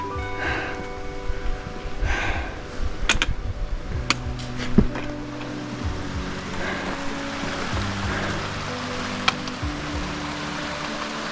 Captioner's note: heavy breathing